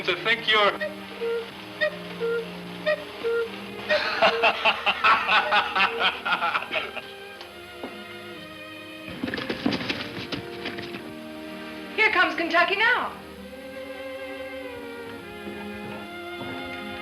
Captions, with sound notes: (clock cuckoos) (both laughing) (hooves clopping) - Here comes Kentucky now.